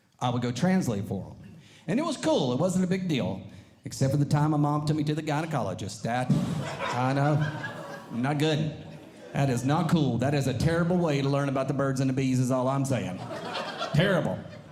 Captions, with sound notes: I would go translate for them. And it was cool. It wasn't a big deal, except at the time my mom took me to the gynecologist that I know. Not good. That is not cool. That is a terrible way to learn about the birds and the bees, is all I'm saying. [Audience Laughing] Terrible.